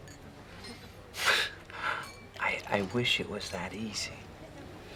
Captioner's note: sighs